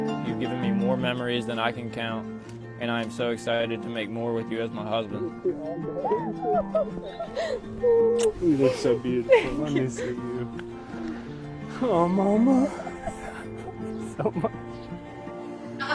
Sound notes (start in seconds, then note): 0.0 slow music; 5.7 cooing and crying; 7.8 kissing noise